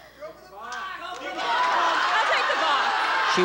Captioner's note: audience shouting and chatter